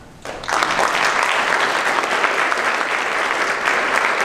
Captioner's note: applause